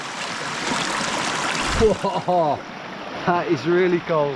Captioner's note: water babbling